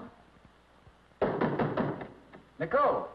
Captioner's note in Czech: Klepání